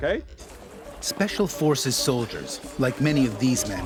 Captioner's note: voiceover